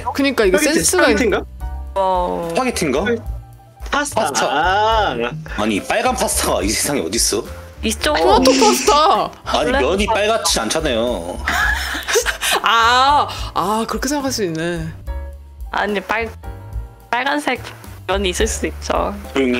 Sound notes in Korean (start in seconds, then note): 11.6 공기 빠지는 웃음소리